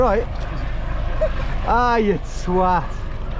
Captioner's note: laughs